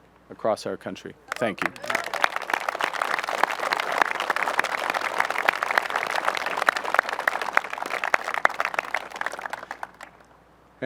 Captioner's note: applause